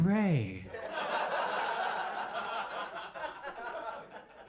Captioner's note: audience laughing